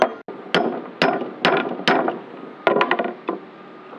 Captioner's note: banging